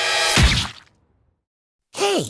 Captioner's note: explodes